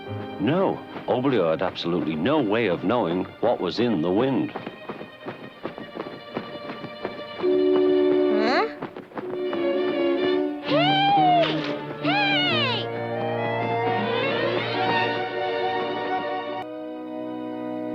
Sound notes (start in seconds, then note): 4.4 wings flapping; 6.0 ominous music; 14.1 ominous music